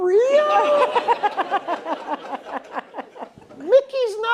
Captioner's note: laughter